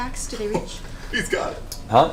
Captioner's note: whispers